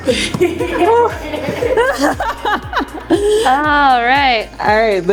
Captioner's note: all laughing